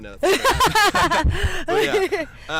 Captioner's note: laughs